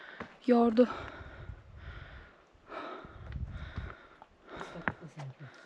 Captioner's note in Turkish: iç çeker